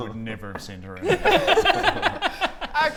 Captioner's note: mean giggles